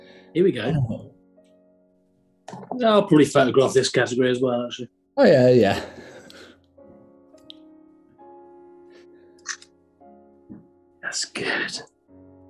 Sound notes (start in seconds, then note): 9.4 shutter clicks